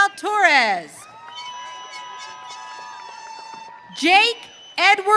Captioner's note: audience cheering